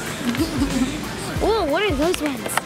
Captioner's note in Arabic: ضحكات